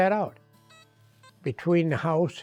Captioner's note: detector beeps